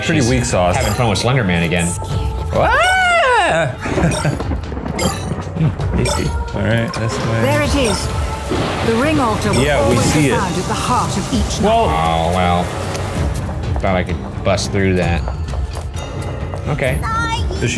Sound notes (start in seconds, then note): 2.9 screams; 3.8 chuckles